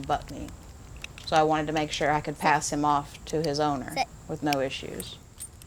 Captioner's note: mouth clicking